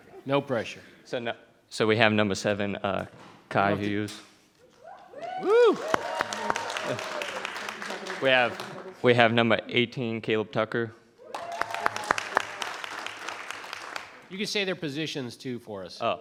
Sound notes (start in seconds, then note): 5.2 audience applauding; 11.3 audience applauding